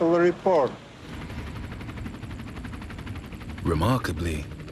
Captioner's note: engine roaring